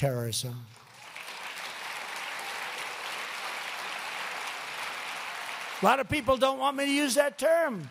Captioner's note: applause